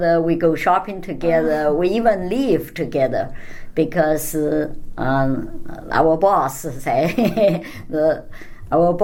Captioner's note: laughs